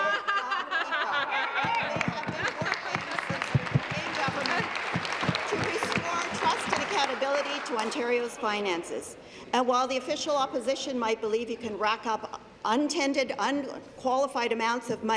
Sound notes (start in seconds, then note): 3.7 laughter; 5.3 applause